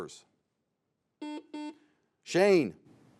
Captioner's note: buzzer beeps